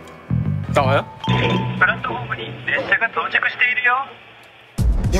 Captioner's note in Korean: 수화기 소리